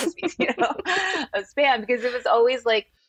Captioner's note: laughter